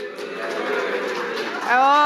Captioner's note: audience applauding and booing